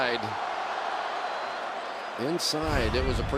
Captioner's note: crowd clamoring